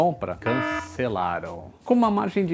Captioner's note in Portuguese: som de alarme ao fundo